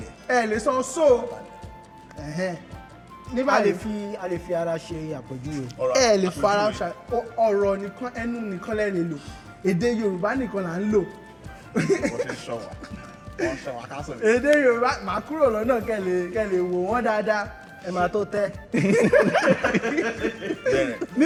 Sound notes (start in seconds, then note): 11.6 laughs; 18.7 everyone laughs